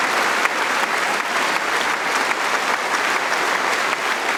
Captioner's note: cheering & Applause